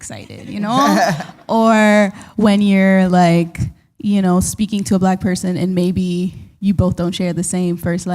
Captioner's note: chuckle